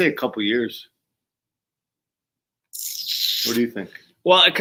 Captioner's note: kisses teeth